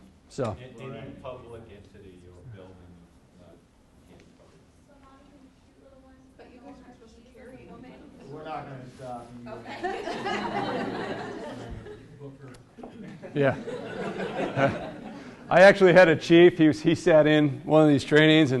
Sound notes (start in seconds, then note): 9.6 class laughs